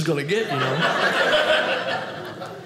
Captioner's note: audience laughing